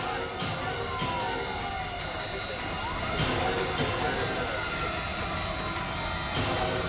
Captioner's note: sirens wailing; suspenseful music; suspenseful music continues